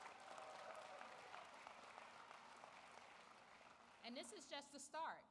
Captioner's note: applause